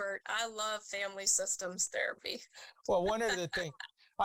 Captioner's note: laughs